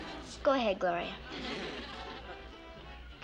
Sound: sighs

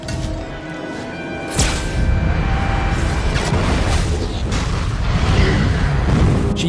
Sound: explosion

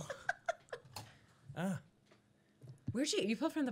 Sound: laughing

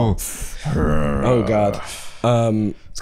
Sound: growling

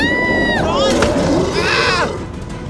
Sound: screams

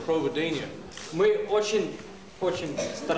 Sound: non-english speech

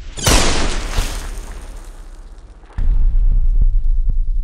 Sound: gun fire

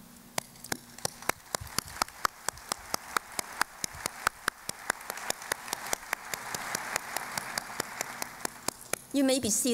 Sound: applause

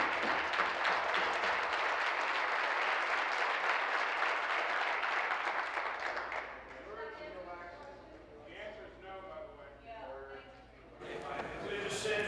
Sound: applause

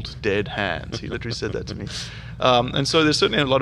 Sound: laughing

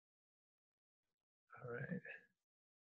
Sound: quietly

